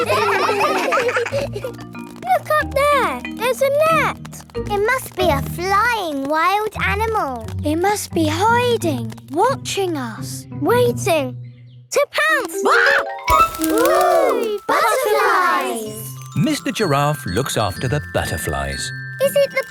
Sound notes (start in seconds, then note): 0.0 children laughing; 13.6 screams